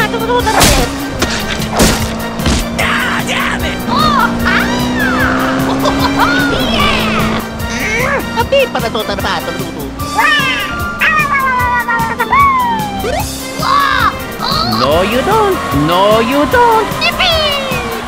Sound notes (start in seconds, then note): 8.3 grunt